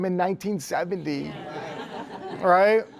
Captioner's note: laughter